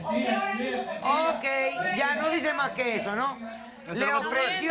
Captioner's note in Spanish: Hablan al unísono